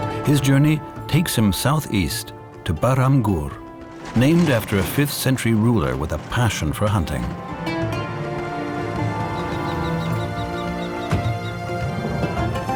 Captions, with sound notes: His journey takes him south-east to Bahram Gor, named after a fifth-century ruler with a passion for hunting. [kestrel calls]